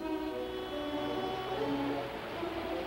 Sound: water rushing; intense music

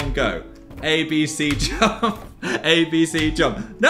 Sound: laughs

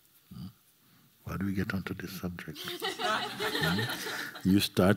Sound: laughter

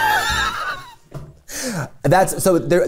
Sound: laughter

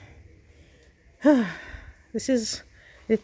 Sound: sigh

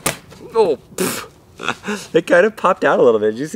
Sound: laughs

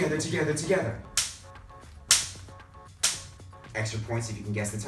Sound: clapping hands

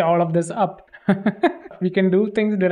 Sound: laughs

